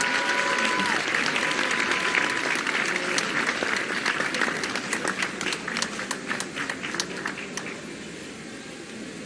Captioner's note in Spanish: aplausos